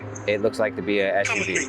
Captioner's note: faintly speaking